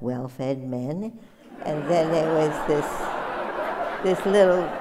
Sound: laughter

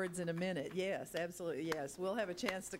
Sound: clapping

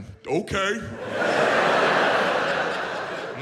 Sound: audience laughs

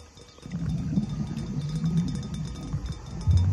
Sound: dinging

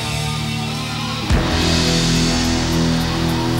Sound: gong clangs; audience cheering

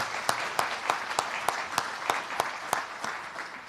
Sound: applause

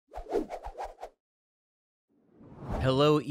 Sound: air whooshing

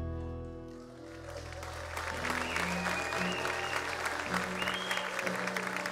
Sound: audience cheers and applauds

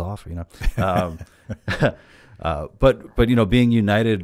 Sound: laughs

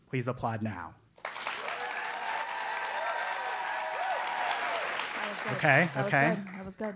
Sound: applause

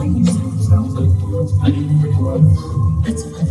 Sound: muttering

